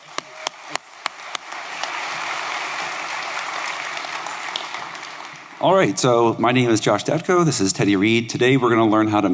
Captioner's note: applause